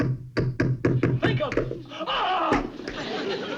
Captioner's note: hammering; screams